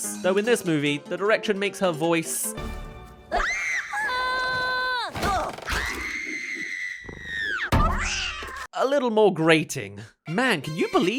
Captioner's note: screaming